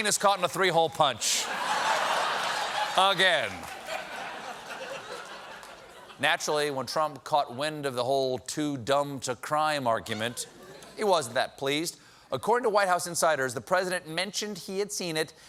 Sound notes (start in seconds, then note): 10.1 laughter